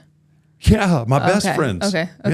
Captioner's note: chuckles